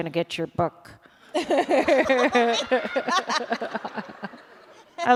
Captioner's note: laughter